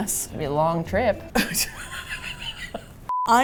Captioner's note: laughs